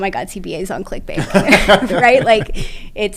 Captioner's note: laugh